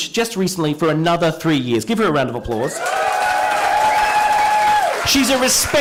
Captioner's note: cheering and applause